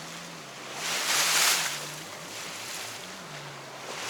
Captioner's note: jet skis revving